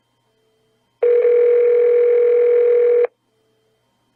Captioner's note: phone rings